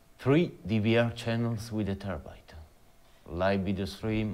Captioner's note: none